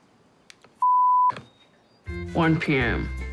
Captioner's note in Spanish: bip